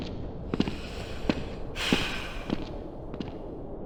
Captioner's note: sighs